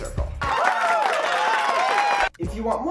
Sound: cheering and applause

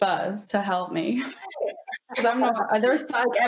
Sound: chuckles

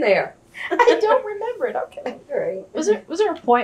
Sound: laughs

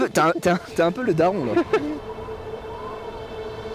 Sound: laugh

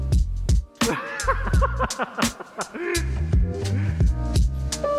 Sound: laughing

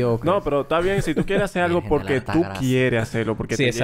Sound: laughs

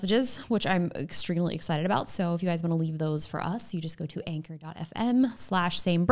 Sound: none

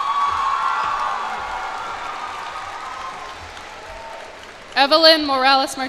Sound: cheers and applause

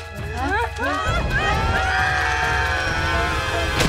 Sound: screaming

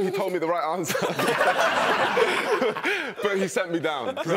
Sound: laughing

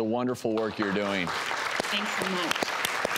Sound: audience applauding

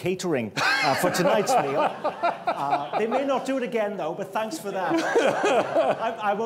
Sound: laughter

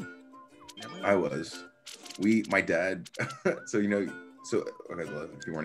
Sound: laugh

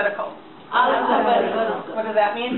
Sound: voiceover

